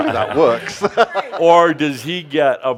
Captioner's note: he laughs